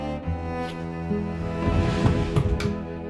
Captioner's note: opening drawers